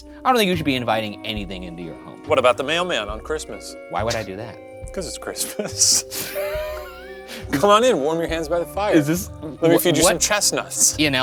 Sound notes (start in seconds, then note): 5.3 laughing